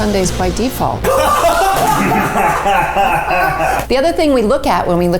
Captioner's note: all laughing